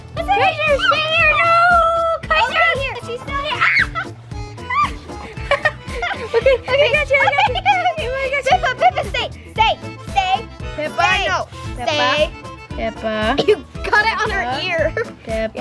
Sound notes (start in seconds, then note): 4.7 screams